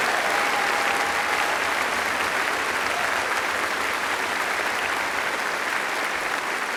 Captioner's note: applause